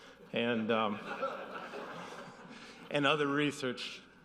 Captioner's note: audience laughing